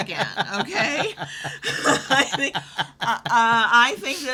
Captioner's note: laughs